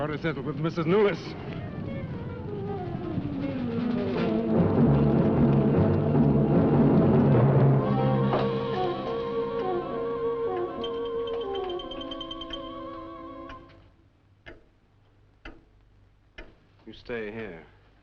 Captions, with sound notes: Got a score to settle with Mrs. Newless. (dramatic music) (clock ticking) You stay here.